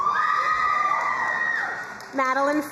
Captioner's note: crowd cheering and applauding